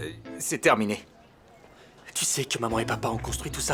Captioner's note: sighing